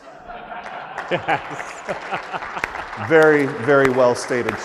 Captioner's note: audience laughs and applauds